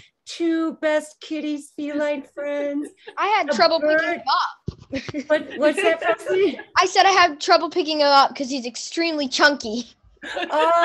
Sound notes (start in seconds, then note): 4.9 laughs; 10.2 laughs